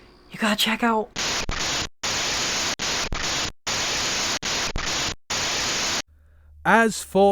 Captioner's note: crackling static plays once more